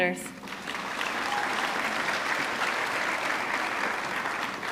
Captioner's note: audience clapping